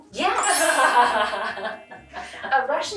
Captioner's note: laughing